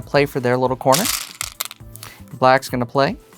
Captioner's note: stones rattling